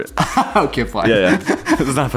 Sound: laughs

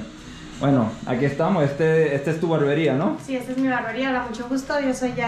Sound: speaking in Spanish

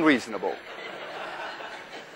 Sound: class laughs

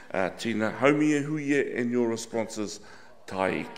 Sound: speaking in foreign language

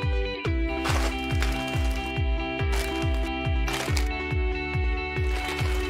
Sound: candy wrappers crinkling

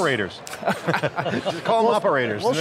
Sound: laughter

